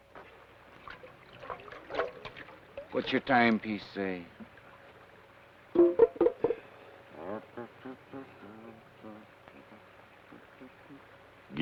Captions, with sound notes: (water swashes) - What's your timepiece say? (Carney hums melodically)